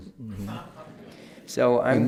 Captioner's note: laughter